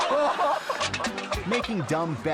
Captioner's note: people speaking in a foreign language; people laughing; foot thudding